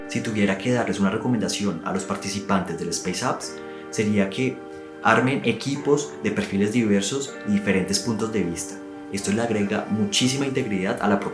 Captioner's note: speaks in a foreign language